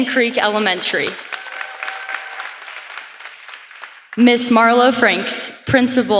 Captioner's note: applause